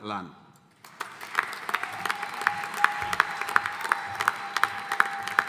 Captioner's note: audience applauding